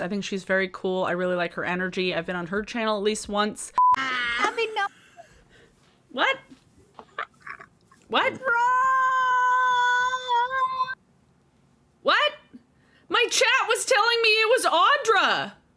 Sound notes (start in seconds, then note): 3.8 beeping; 8.4 screaming